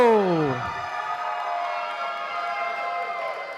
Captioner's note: applause